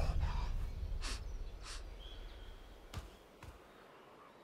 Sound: sniffing

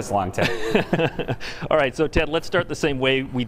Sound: laughter

